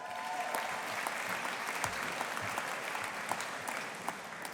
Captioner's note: audience applauding